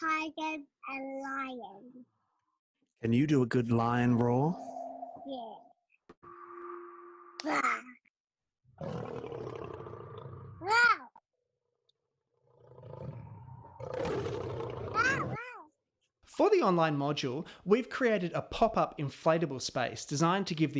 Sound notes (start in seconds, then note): 8.8 sound of a lion roaring; 12.4 sound of a lion roaring louder; 15.0 child squeals excitedly